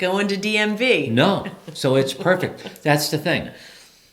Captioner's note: laughs